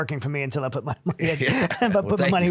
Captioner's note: laughing